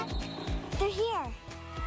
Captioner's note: Enclave honks